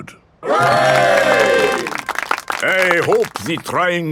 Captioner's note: clapping